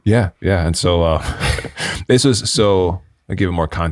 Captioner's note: chuckling